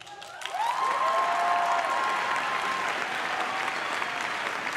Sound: crowd claps and cheers

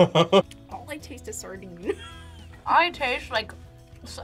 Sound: laughs

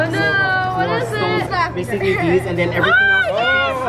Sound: excited exclaiming

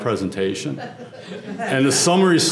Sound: laugh

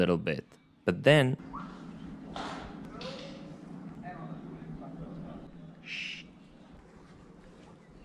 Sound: loud whistle; indistinct chatter

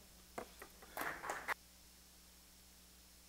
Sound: applause

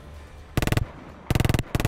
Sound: brrrrt

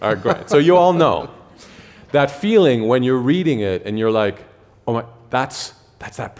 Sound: laughter

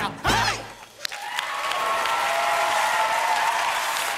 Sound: cheers and applause

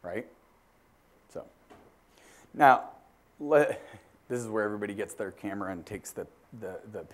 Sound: laugh

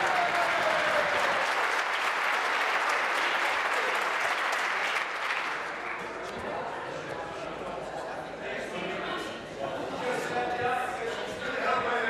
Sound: applause

